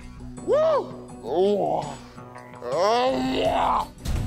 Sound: grunting

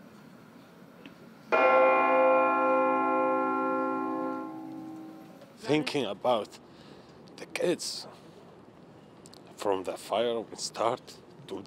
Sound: bells tolling

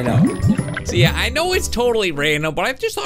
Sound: bubbles gurgle

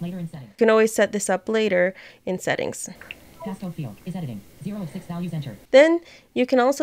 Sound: voiceOver talking

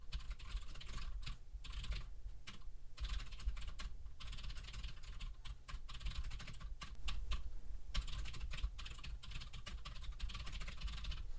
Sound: typing sounds

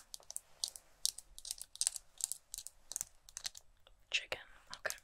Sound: tapping

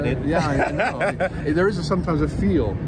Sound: laughs

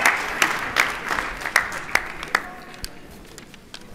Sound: applause

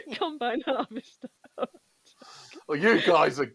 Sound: laughs

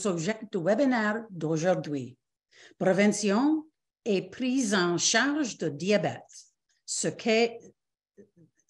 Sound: repeats in French

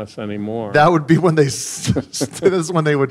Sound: laughing

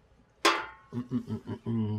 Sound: bottle clonks

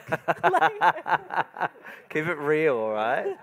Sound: moderator laughing

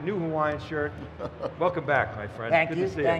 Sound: laughter

